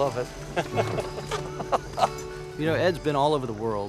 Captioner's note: laughter